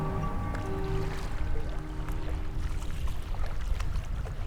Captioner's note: water splashing